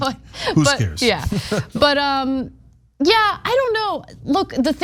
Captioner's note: laugh